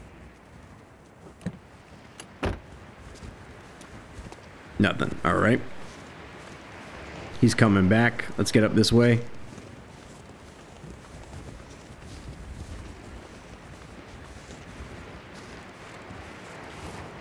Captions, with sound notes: [Car Door Opens & Closes] Nothing. All right. He's coming back. Let's get up this way.